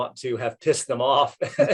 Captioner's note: laughs